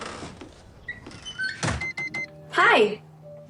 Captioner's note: beeping